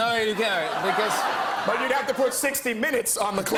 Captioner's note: laughter